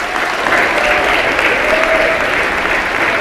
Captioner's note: applause